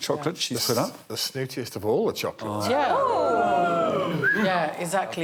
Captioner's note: oohs and aahs